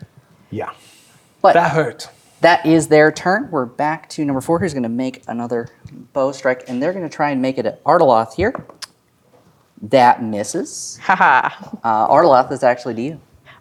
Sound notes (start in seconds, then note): 8.8 dice rolling